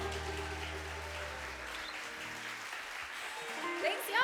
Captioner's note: audience cheering